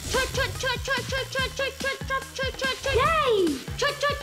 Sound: makes helicopter sounds

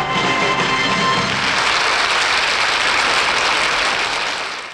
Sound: audience applauds

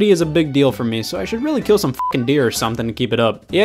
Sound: beep

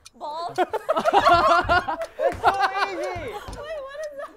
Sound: laughter

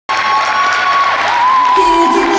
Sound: audience cheering and applauding

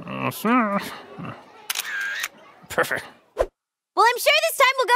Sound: click

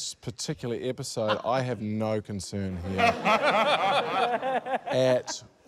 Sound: laughter

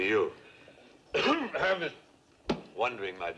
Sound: coughs

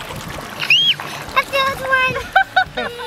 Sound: screaming; laughter

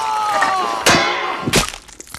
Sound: pan hit; crack

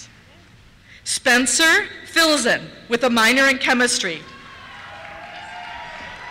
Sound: cheers

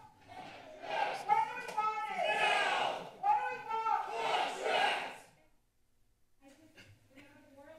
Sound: protesters shouting

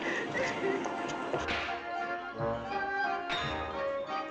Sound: air Rifles Popping

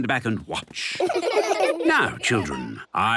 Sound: laughter

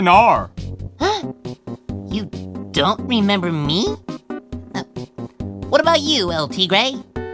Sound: gasps

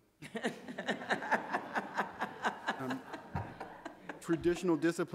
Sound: audience laughing

